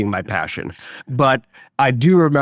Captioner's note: laughing